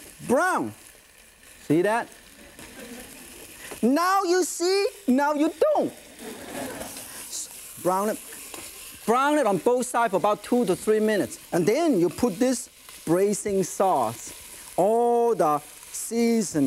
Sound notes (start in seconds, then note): 6.1 audience laughing